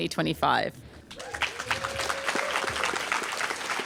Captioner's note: applause